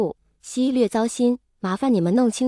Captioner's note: slightly upset